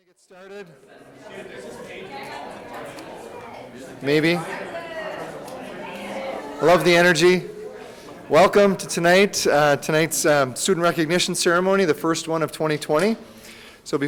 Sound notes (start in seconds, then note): 1.8 people chattering